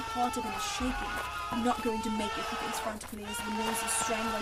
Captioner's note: screaming intensifies